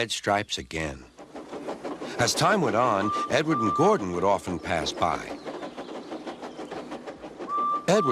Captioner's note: Edward rolls by and whistles; Edward whistles again